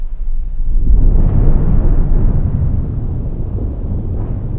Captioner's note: explosions booming